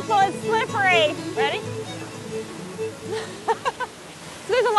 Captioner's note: laughs